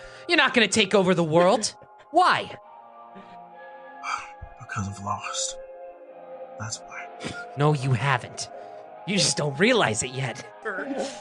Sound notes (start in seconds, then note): 4.6 sigh